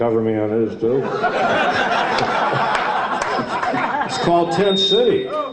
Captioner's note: audience laughs